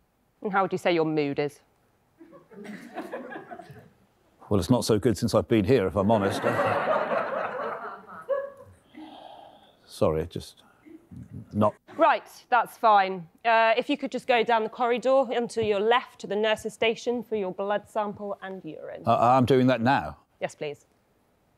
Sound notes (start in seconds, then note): 2.3 audience giggling; 6.1 audience laughing